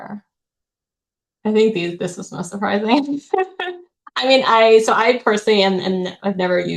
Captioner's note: chuckles